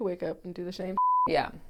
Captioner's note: beep